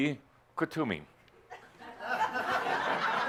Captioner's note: more laughter as he sits in Linda’s chair